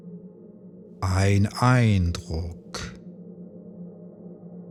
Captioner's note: german